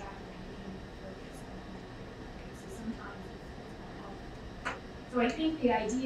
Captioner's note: speaking away from mic